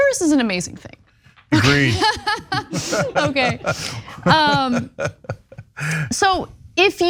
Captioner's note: laugh